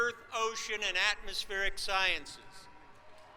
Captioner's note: applause